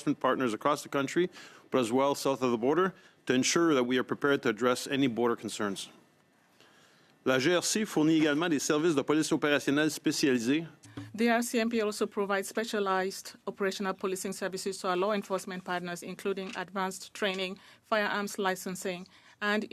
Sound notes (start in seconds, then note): 11.9 speaking French